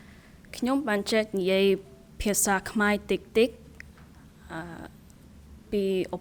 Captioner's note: speaking in a foreign language